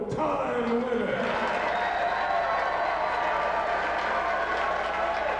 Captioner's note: spectators cheering and applauding